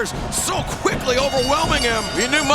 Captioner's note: bell ringing